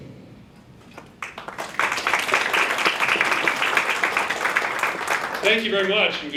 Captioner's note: clapping